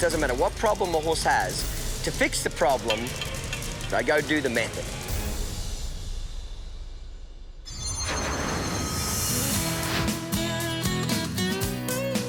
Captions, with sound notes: - It doesn't matter what problem your host has, to fix the problem, I go do the method. (air whooshing) (rock music)